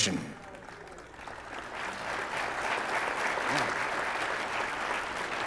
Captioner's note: audience applauding